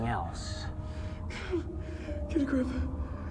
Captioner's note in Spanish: Josh gime